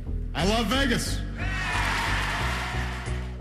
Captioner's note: applause